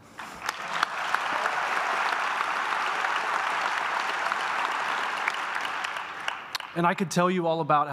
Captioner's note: applause